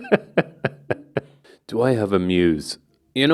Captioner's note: person in background laughs; laughs